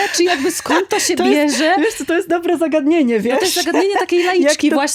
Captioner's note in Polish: śmiech